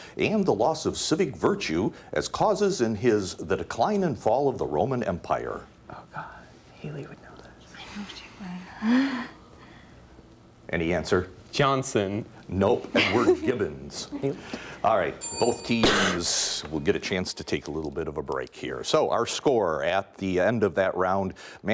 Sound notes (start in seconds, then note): 15.2 ding